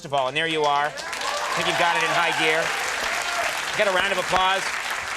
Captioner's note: crowd applause